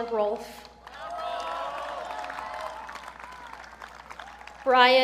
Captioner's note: audience cheering